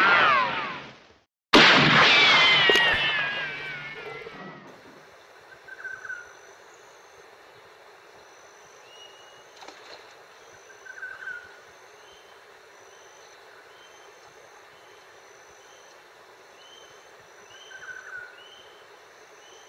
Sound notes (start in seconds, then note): 1.6 gun shots echoing; 5.5 birds chirping; 9.5 splash